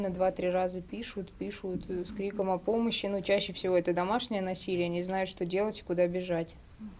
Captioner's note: speaking native language